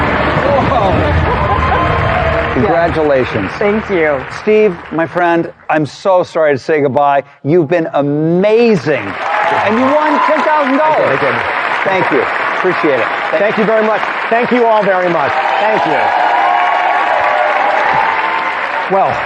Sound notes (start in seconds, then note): 8.3 loud cheering and applause